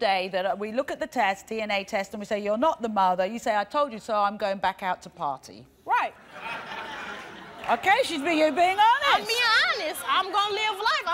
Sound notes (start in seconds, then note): 6.2 laughing